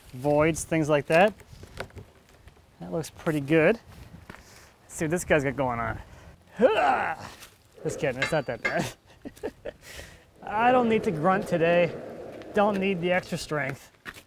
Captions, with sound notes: Voids, things like that. That looks pretty good. See what this guy's got going on. (grunting) Just kidding, it's not that bad. (laughing) I don't need to grunt today. Don't need the extra strength.